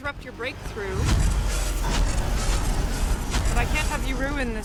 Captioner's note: zapping